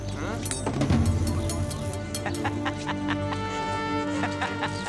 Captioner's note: man laughs